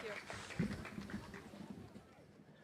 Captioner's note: cheering and applause